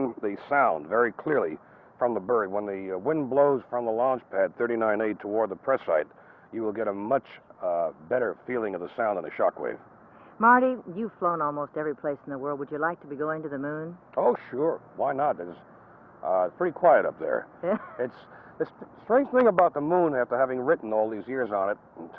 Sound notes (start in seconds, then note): 17.7 laughs